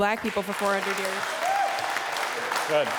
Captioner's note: applause